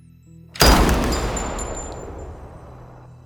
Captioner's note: gun fires